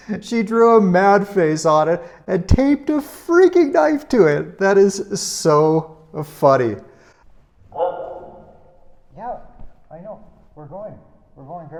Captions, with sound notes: She drew a mad face on it and taped a freaking knife to it. That is so funny. (Laska barks) Yeah, I know, we're going.